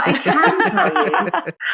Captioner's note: laughing